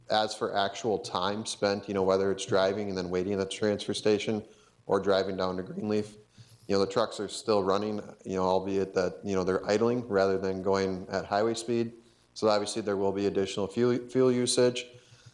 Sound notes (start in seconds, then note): none